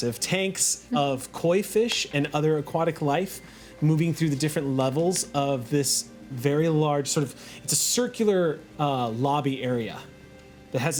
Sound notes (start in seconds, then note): none